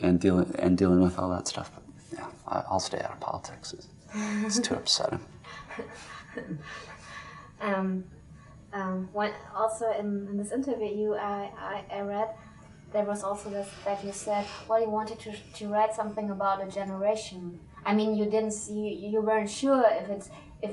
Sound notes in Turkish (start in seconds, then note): 5.6 kahkaha